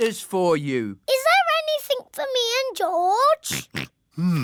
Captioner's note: oinks